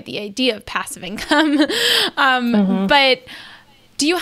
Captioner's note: she laughs